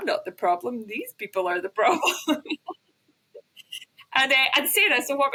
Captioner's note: laughs